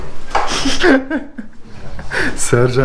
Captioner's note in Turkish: Gülüşmeler